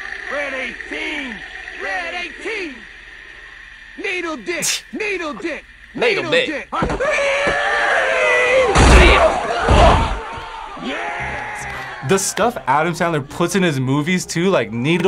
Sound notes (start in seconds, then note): 4.6 laughs; 6.0 yells